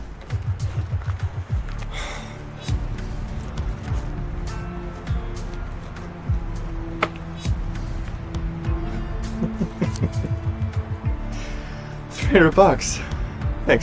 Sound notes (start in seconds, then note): 0.3 tense music continues; 9.3 Patrick laughs